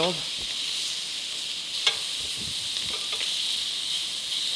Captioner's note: pan sizzling